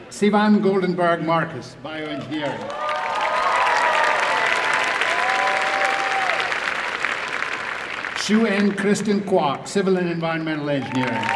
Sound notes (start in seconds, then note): 5.0 applause and cheering